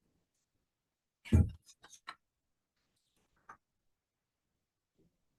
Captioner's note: paper rustling